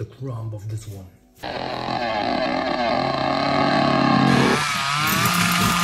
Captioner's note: sound of a chainsaw